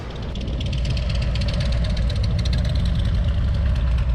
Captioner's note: engine rumbles